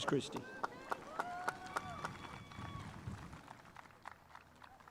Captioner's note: spectators applauding